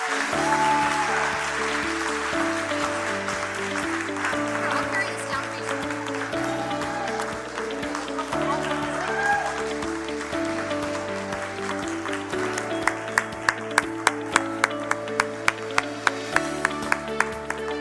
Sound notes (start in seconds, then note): 5.8 cheering and applause